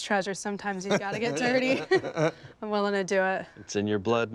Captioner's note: laughter